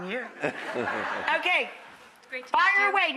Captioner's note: audience chuckles